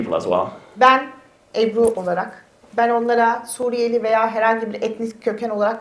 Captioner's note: speaks in Turkish